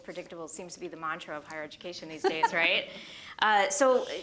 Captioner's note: laughter